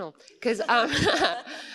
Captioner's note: laughter